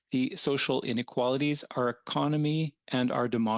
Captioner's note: speaking French